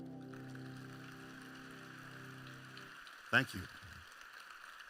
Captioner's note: applause